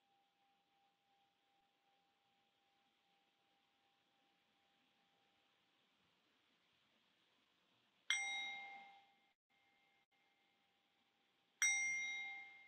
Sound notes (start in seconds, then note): 8.6 bell chimes